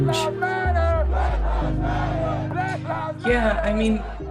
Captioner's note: crowd chants "Black lives matter!"